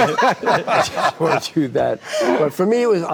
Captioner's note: group laughing